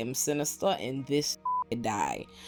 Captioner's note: beep